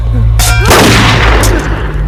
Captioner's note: gunshot